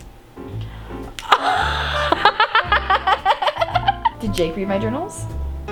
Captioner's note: laughs